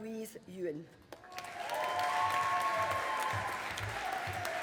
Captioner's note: audience applauding